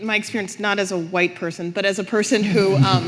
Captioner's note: audience laughing